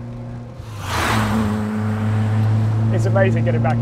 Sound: car whooshes

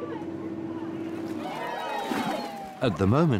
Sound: people cheer

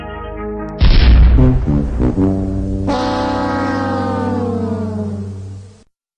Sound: Price-is-Right losing horn

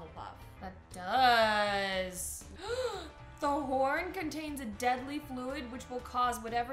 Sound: gasps

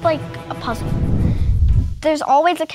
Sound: whooshing electronic effects

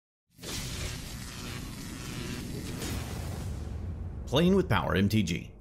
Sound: electricity crackling

